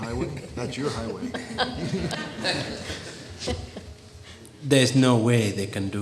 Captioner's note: all chuckling; audience laughing